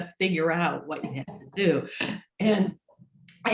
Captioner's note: laughs